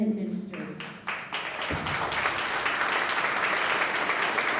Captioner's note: applause